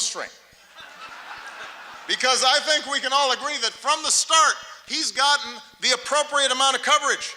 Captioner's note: laughter